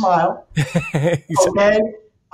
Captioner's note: laughs